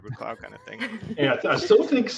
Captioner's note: laughing